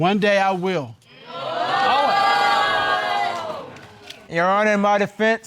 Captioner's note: all exclaim